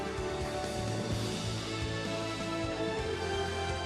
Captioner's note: applause